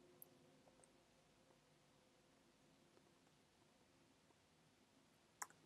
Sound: keyboard and mouse clicking

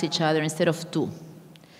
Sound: speaking in a foreign language

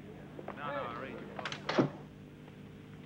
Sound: door clatters

